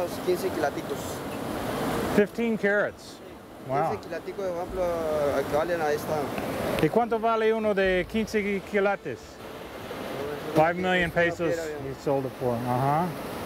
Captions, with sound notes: - 15 CARATS? WOW. - [speaks Spanish] - [speaks Spanish] 5 MILLION PESOS YOU SOLD IT FOR, UH-HUH?